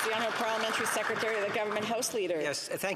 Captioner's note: applause